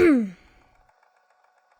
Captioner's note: clears throat